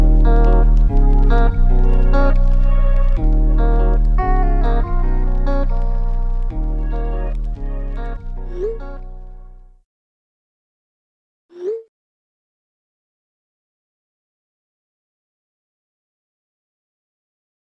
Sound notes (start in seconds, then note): 8.6 text messages popping